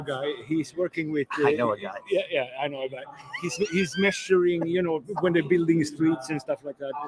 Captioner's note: laughs